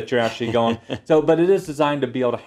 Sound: laugh

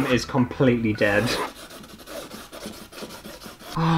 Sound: pen Scratching Canvas

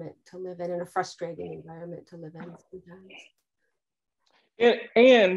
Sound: speaking softly

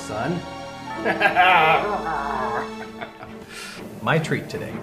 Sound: laughs

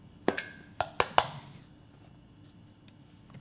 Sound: tapping

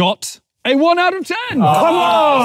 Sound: chanting six

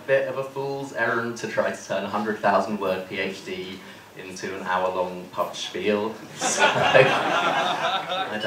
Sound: laughter

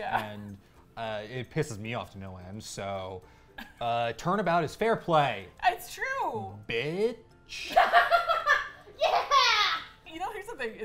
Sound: laughs

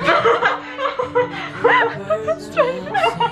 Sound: both laugh

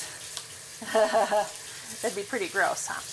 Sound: laughs

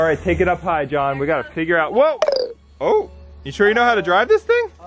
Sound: drone drops

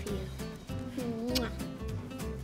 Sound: kissing sounds; upbeat instrumental music

